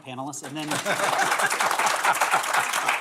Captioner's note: applause